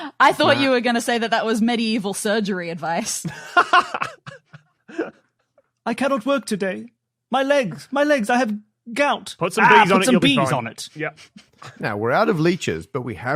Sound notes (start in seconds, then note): 3.4 laughs